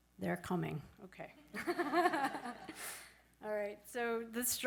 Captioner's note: laughs